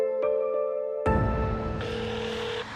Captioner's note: phone ringing